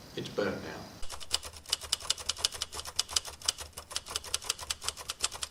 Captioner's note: typewriter clicking